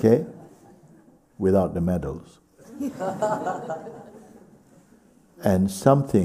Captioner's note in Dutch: gelach